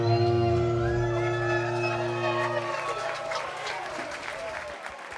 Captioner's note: audience cheers